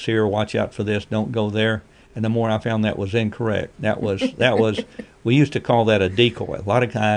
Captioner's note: laughs